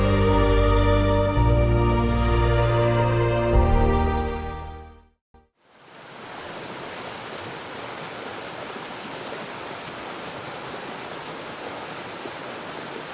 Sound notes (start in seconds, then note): 5.8 water falling